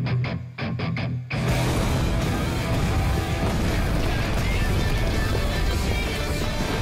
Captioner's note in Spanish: Explosión